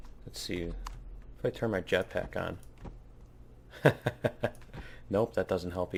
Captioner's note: laughs